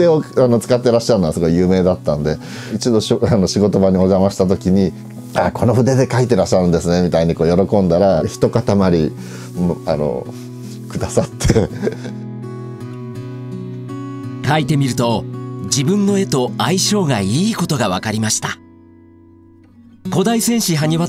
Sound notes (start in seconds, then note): 11.2 laughs